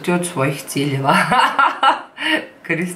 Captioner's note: laughs hysterically